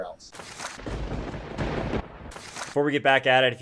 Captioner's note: thunder crackling